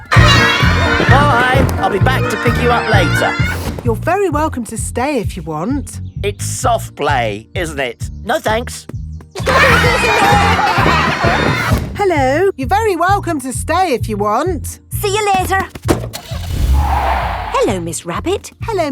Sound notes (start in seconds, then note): 9.4 laughter; 16.2 tires screeching; 16.2 car starting